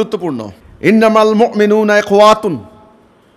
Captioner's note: Arabic